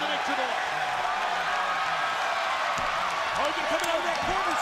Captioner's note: crowd cheering